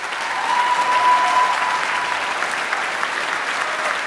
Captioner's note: audience applauding; audience cheering